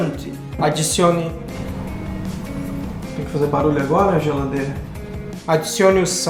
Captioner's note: noise in the fridge